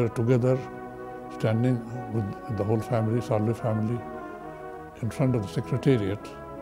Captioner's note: sadly